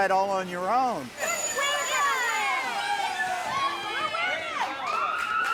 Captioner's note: bells dinging; cheers and applause